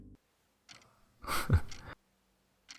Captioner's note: chuckle